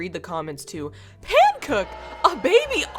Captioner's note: booing in backround